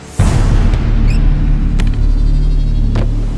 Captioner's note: Closing tap; Door opens